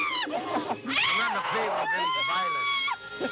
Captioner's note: chattering